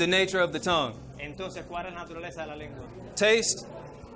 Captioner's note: interpreter speaking in foreign language